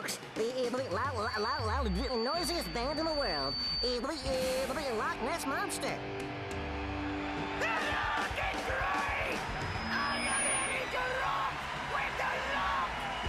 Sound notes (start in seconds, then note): 6.2 fans cheering